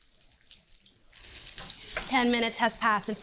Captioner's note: pan sizzling